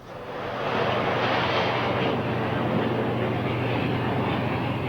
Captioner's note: jet engine roaring